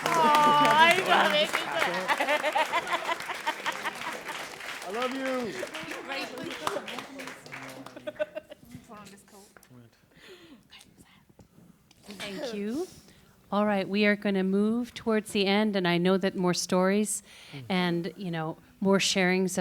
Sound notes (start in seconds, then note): 0.0 applause and chatter; 6.0 applause and laughter